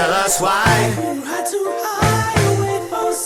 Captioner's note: space station whooshing; pensive music